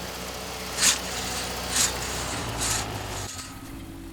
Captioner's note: sawing